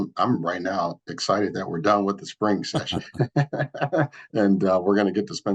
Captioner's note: laughs